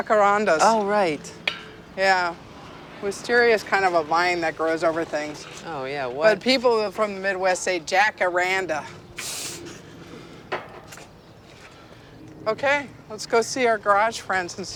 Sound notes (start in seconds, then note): 9.1 sniffs